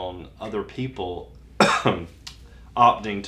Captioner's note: cough